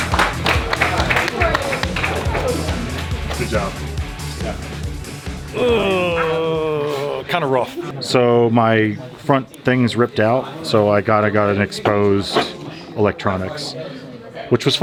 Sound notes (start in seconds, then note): 0.0 everyone applauding; 5.4 grunts